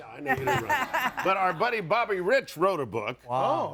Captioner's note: audience laughing